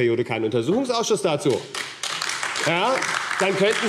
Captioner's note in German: Beifall AfD